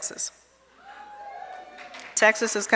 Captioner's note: audience cheering